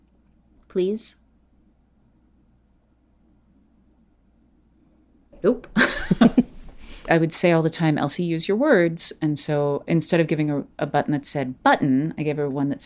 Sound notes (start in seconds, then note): 1.2 long silence